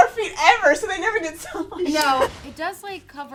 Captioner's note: laughs